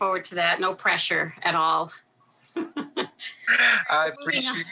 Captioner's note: laughs